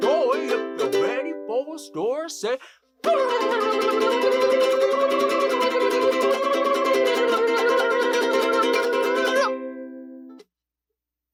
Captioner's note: silly noises